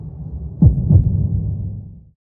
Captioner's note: heart beating